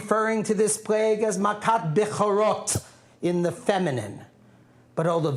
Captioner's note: non-english speech